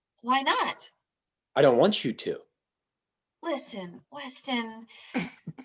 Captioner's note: chuckles in the background